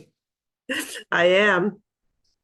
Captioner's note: chuckles